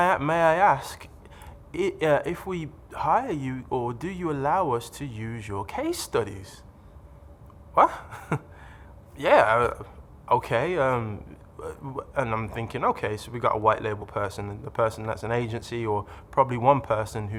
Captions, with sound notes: "May I ask, if we hire you, "or do you allow us to use your case studies?" "Wha'? (laughs) "Yeah. "Okay." And I'm thinking, ok so we got a white label person. A person that's an agency or probably one person